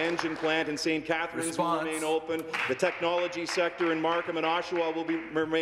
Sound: applause

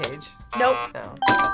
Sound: buzzer rings; buzzer

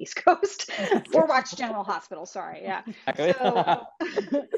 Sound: panel laughs

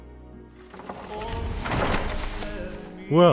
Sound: door closes

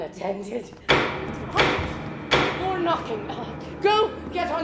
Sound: knocking

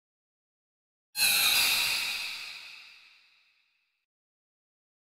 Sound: eerie scream

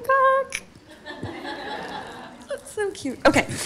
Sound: audience laughing

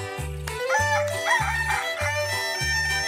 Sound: crowing

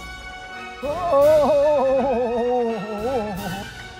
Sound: painful sounds

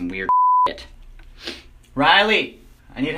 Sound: sniff

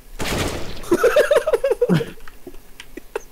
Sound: laugh

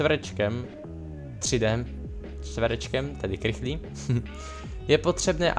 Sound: chuckles at own logic

